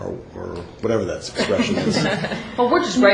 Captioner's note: laughter